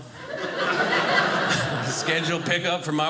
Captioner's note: audience laughing